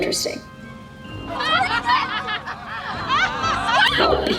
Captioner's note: crowd mocking on TV